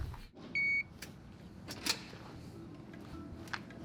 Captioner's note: beep; soft music